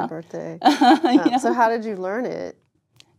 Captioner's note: laugh